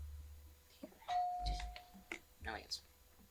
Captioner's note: bell ringing